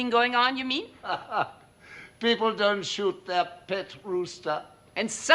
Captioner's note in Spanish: Risas